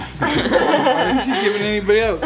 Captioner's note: laughing